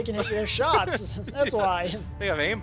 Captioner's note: both Laugh